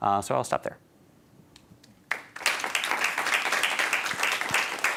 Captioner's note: applause